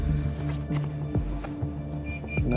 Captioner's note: beeping